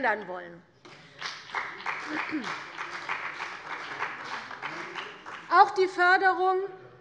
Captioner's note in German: Beifall bei der CDU und dem BÜNDNIS 90/DIE GRÜNEN